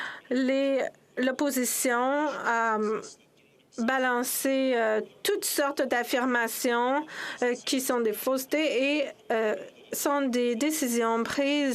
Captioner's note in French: voix de l'interprète